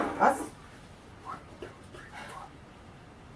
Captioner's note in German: Aus dem Off